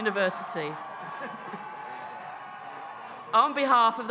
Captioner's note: audience cheering